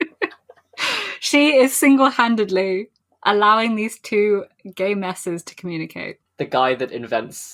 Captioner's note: laughs